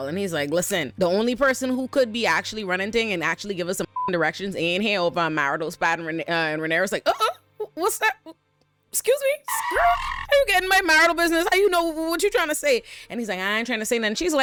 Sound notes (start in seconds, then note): 4.0 beep; 9.4 squeals